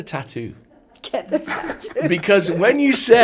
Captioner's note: laughing